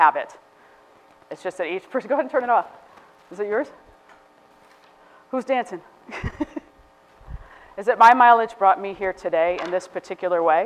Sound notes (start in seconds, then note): 6.1 laughs